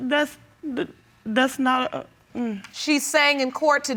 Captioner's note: stammering